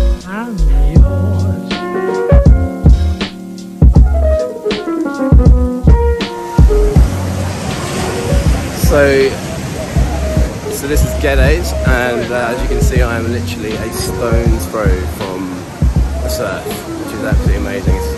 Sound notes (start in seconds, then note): 6.6 waves crashing